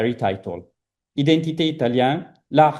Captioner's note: speaking italian